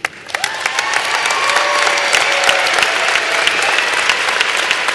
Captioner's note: applause